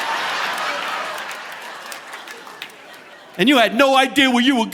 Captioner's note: audience laughing